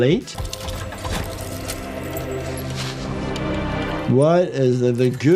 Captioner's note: eerie music; objects clattering